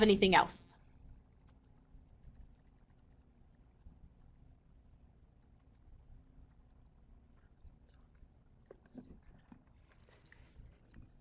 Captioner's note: no sound - waiting for questions